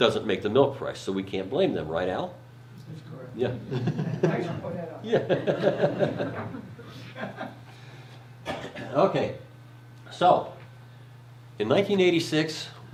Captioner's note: laughs